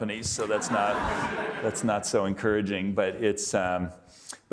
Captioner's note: audience laughing